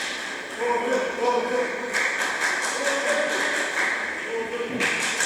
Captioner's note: applause